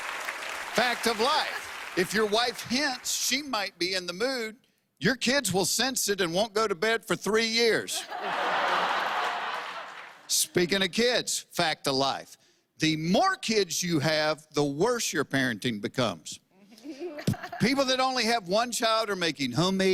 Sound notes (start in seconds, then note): 7.9 laughter